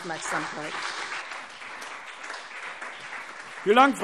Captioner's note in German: Beifall CDU und BÜNDNIS 90/DIE GRÜNEN